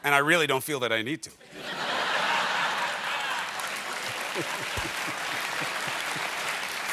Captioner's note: laughter; applause